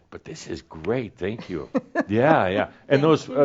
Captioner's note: she chuckles